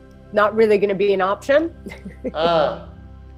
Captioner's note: laughs